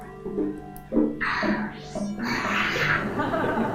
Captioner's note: bot sighing; participants laughing